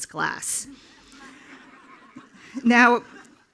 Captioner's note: attendees laughing